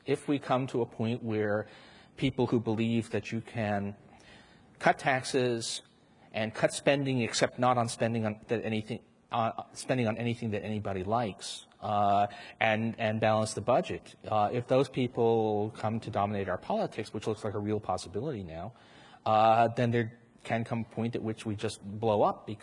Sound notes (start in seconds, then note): none